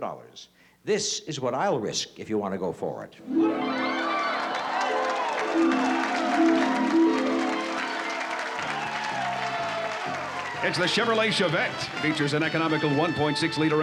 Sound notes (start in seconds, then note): 3.2 cheering